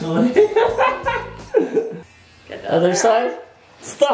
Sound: laughing

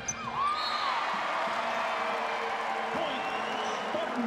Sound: cheers and applause

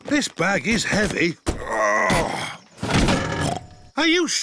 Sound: peppa giggles; grunts; snorts

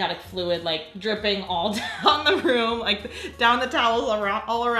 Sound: laughing

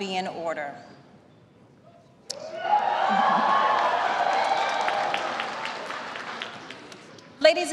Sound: applause

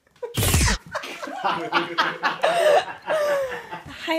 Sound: laughter

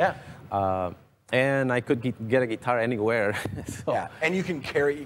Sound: laughs

